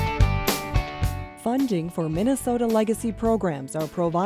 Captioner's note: voiceover